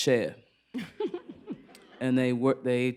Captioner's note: laughter